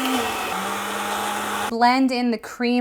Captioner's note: blender whirring